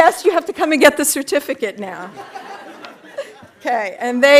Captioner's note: audience laughing